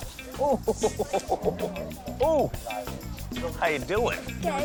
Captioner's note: laughter